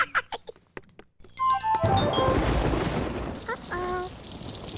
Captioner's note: thunder